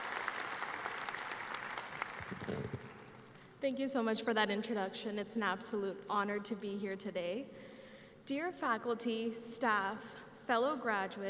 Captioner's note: applause